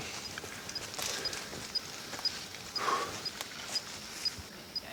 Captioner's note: tracker beeping